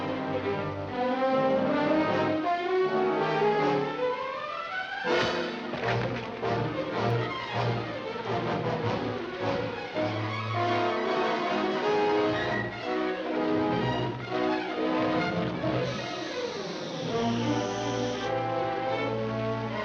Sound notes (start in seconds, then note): 5.1 dramatic music; 5.2 thud; 15.8 fuse hissing; 18.2 dramatic music